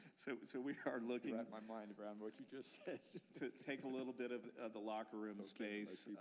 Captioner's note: laughter